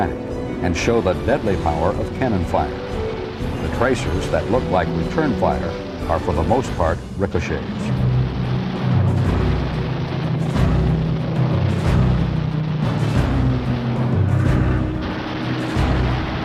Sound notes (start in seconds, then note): 8.2 intense orchestral music; 8.7 explosions blasting